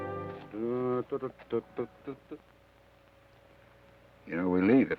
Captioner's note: Joshua hums melodically